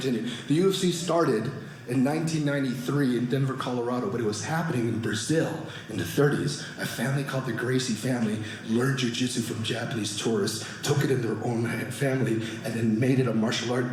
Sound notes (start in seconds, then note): none